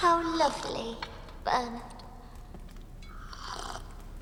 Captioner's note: slurping